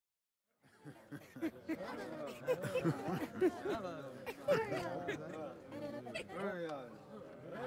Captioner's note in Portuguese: Conversas